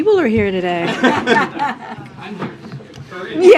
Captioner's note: laughter